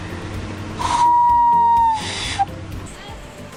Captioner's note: whistles